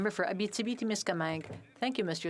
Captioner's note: speaking French